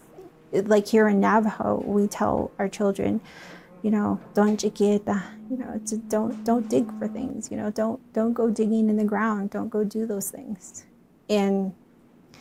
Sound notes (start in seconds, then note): 4.2 speaks in Navajo